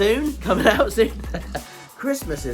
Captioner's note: chuckles